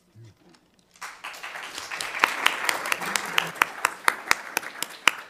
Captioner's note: crowd clapping